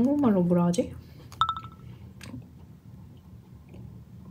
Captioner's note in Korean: 정적